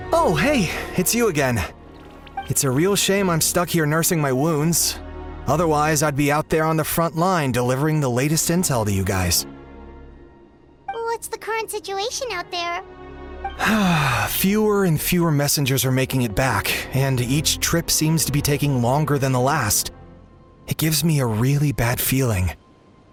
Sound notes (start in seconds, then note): 13.6 sigh